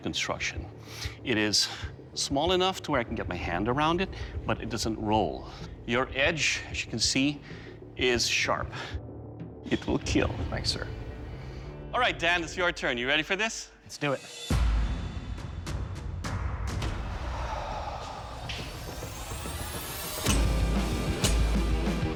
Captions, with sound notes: It is small enough where I can get my hand around it, but it doesn't roll. Your edge, as you can see, is sharp. -It will KEAL. -Thank you, sir. All right, Dan, your turn. Ready for this? -Let's do it. -[dramatic music plays] [sharp exhale] [intense music playing]